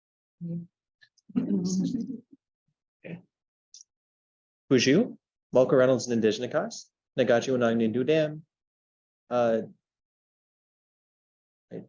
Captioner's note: speaking Anishinaabe